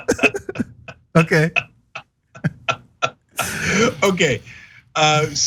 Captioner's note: laugh